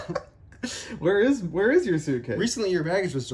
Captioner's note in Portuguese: risos